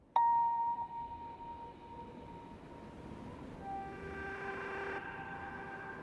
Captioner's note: gentle music; wind whistling